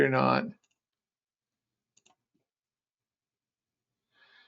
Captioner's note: mouse clicking